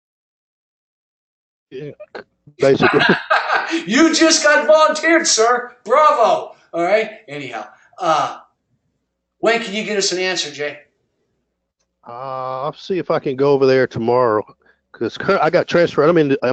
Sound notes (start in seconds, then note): 2.6 laugh